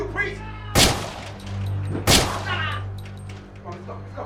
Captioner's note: gun shots